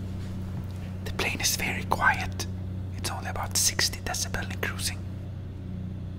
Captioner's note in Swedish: Viskar